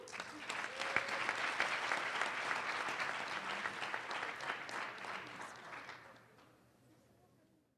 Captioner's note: applause